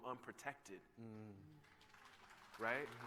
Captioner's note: applause